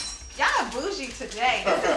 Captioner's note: all laughing